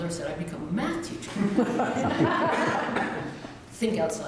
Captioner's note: laughter